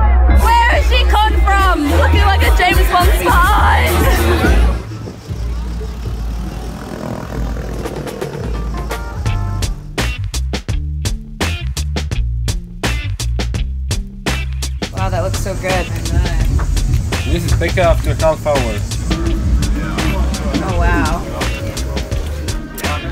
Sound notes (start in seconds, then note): 4.9 boat motors whirring; 9.4 upbeat music